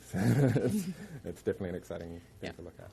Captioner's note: laughing